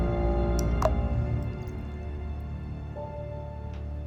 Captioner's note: plopping